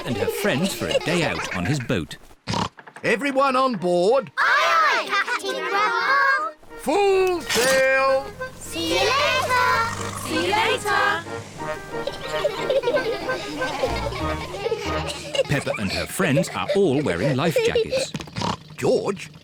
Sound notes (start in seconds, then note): 2.4 oinks; 9.5 all giggling; 18.3 oinks